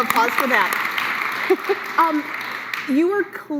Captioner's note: applause